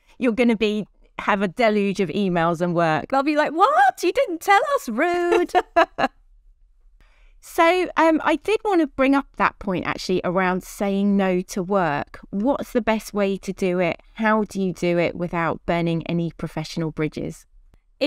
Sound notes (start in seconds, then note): 5.2 both laughing